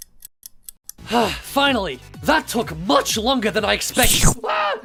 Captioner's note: sighs